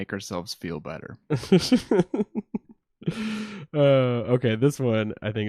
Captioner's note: laughs